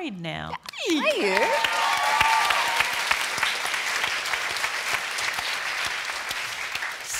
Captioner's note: applause